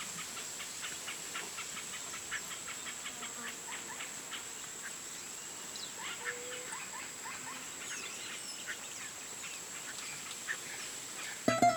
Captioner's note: forest noises